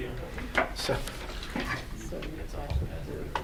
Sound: board chattering; speaking faintly

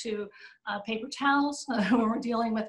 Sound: laughter

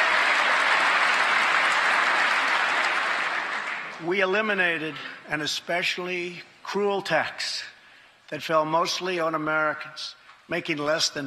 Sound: cheers and applause; applause

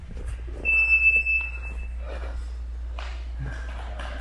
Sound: alarm beeping

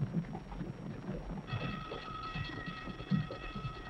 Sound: alarm

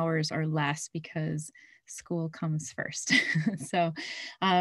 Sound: chuckles

